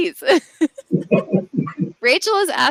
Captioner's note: laughing